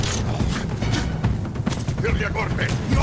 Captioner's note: eerie music; speaking in foreign language; grunting